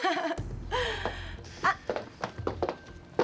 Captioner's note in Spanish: Risas